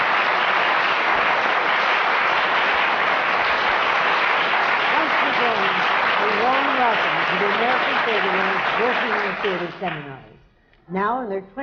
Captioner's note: applause